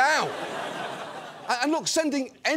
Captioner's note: audience laughs